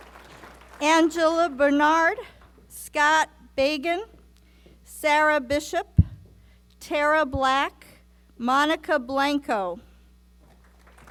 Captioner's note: applause